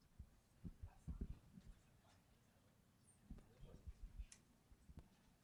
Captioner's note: indistinct chatters